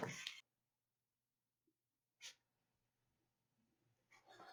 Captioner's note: silence